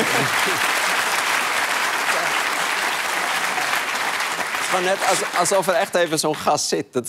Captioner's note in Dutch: applaus